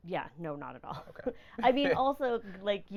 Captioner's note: laughing